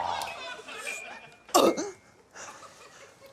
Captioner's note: coughs